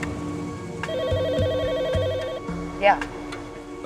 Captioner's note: telephone ringing